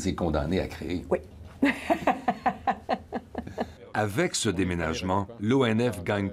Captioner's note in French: rire